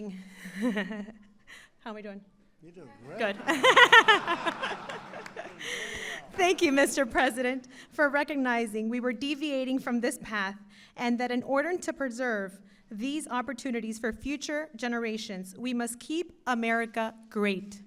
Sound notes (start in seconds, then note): 0.3 laughs; 3.3 laughter